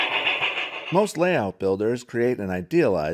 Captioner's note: voiceover